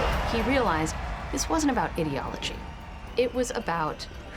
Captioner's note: audience cheering